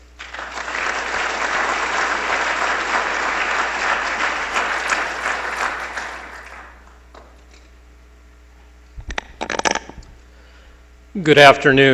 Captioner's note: applause